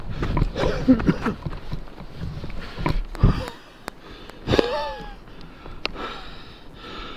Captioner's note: Ruggiero coughs; Ruggiero struggles to breathe, he is out of breath